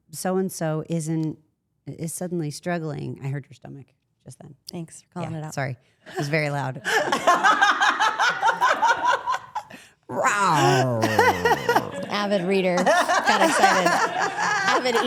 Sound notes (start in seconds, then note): 7.0 Steph and Rhea laugh; 10.1 Steph imitates stomach growl